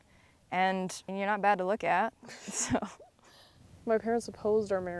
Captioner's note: chuckles